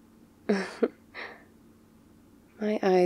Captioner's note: laughs